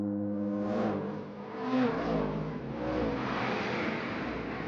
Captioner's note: engines roaring